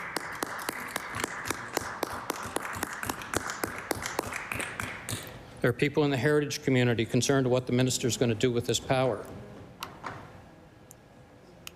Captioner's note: applause